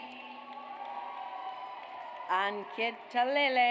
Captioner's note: audience cheers